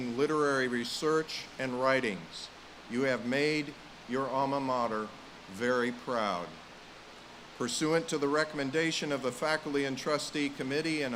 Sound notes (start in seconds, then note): none